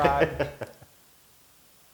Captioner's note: laugh